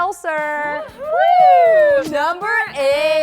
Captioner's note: cheering excitedly